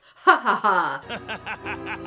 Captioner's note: laughs sinisterly; Shadow laughs ominously